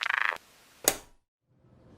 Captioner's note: static; click